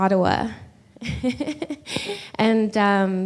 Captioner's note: laughs